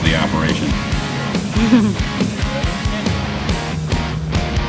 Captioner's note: laughter